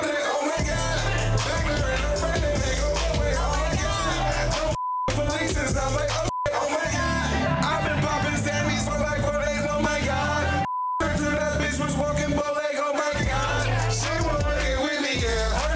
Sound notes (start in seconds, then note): 4.7 beep; 10.6 beep